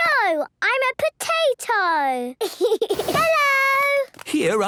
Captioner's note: giggles